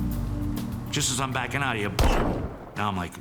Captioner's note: gunshot